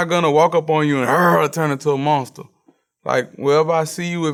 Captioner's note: growls